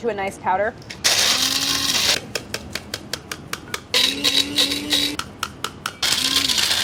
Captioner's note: food processor whirring; sieve tapping